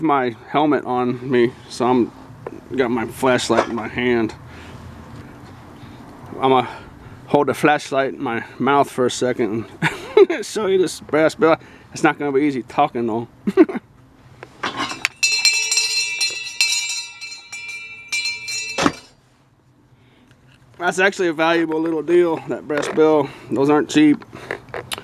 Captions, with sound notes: i don't have my helmet on me, so i just have my flashlight in my hand i am going to hold the light in my mouth (laugh) and show you this brass bell it's not going to be easy talking though (laughing) (bell ringing) thos ebrass bells actually are valuable little deals, they are not cheap